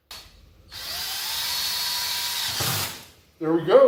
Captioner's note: drills